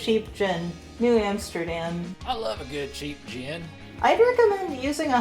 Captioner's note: male redneck voice